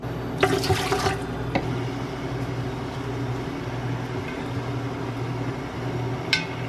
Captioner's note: maybe two splashes